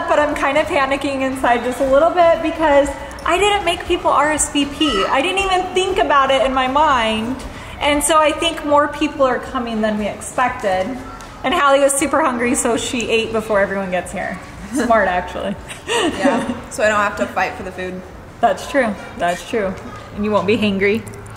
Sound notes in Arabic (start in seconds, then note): 15.6 يضحك كريستال